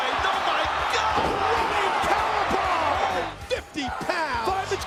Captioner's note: body thuds